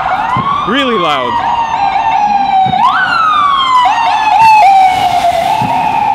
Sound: loud ambulance

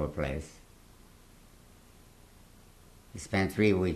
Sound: pauses for 3 seconds

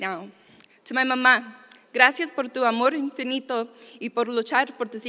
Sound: speaking spanish

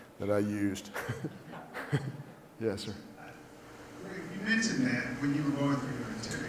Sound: laugh

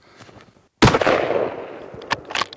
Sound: gunshot

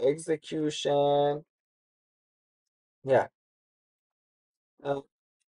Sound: pause

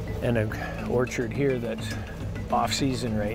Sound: none

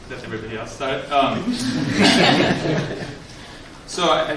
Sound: laughs

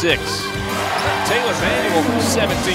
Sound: crowd cheers

